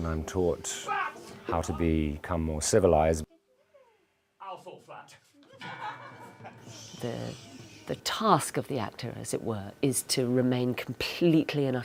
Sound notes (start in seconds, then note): 5.4 laughter